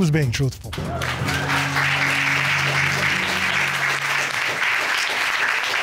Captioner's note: applause